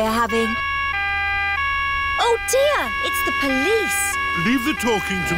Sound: siren wailing

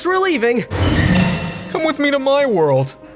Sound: portal hums

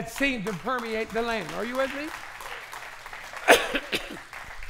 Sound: applause

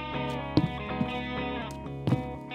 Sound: footsteps

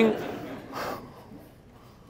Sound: laughter

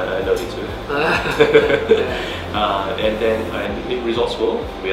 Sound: laugh

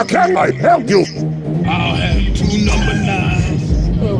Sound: starts cracking up

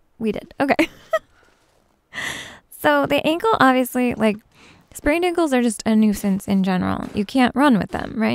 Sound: giggles

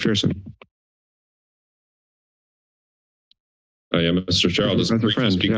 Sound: silence

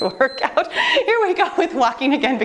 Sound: timer beeps

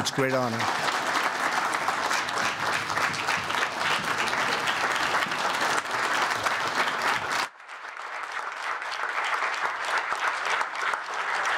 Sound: applause

